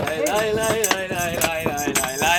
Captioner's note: clapping on beat